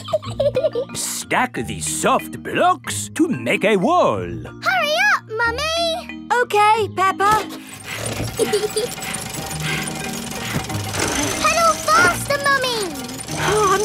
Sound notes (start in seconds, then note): 0.0 laughs; 7.6 mummy pig panting; 8.2 peppa laughing